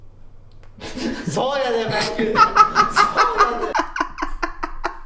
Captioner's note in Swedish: skrattar